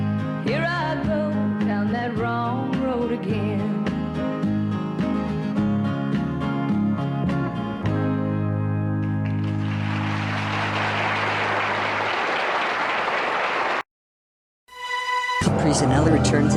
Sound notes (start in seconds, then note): 4.7 music ends and applause